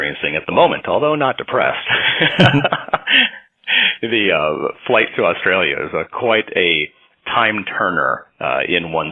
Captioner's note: chuckles